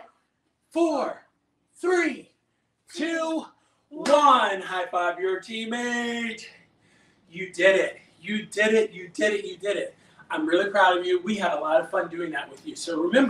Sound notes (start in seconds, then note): 4.0 claps